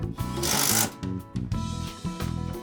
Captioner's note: tool whirring